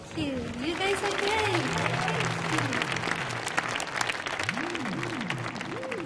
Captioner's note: audience clapping